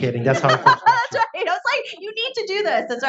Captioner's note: laughs